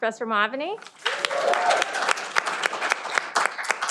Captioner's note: cheering